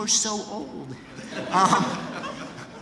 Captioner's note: laughter